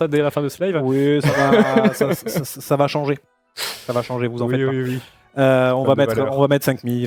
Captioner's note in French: rires